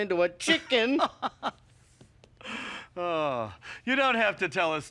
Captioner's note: laughing